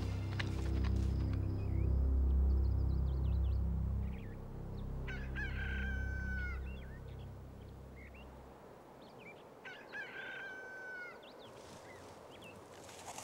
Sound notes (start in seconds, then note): 0.2 birds chirping; 5.1 rooster crowing